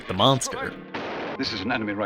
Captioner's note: gun shooting